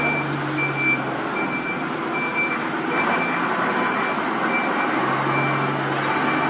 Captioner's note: engine Beeping